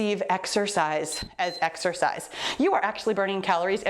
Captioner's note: timer beeps